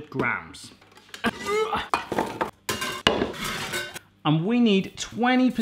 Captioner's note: heaving